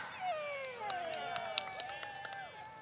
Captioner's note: applause